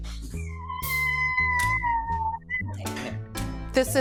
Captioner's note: child crying